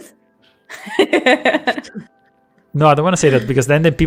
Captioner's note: laughter